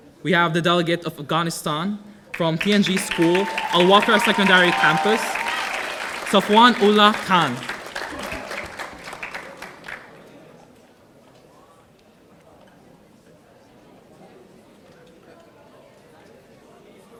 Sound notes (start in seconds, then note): 5.5 audience applauding